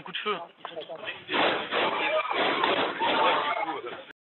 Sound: shots fired

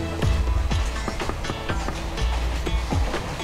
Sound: door knocking

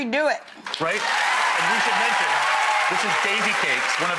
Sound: audience cheers and applauds

